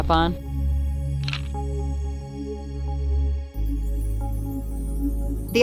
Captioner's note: camera shutter clicks